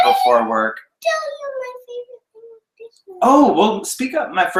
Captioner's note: boy whines